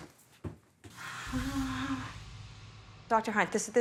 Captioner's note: gasps